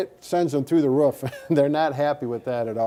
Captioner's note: both chuckle